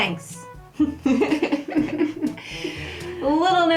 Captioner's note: laughter